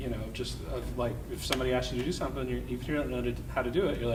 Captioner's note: none